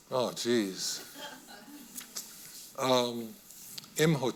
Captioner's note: audience member laughing